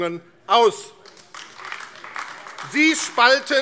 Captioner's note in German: Beifall AfD